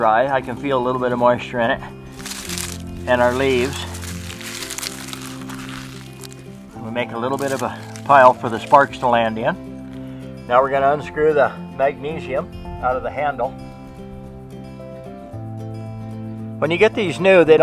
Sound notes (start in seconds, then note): 4.4 leaves crinkling